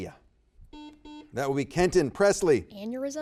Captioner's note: buzzer beeps